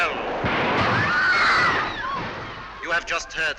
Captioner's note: train whistle and screams